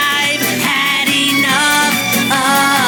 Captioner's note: ze gasp